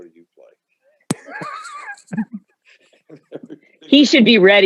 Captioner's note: everyone laughing